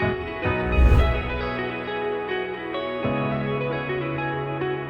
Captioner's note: swooshing sound effect